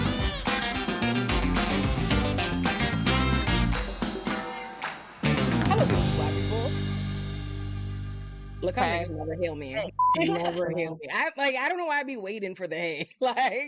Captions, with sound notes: (upbeat music) How about that, Black people? Look how much you never heal me. I'm (beep) never heal me. I don't know why I'd be waiting for the A.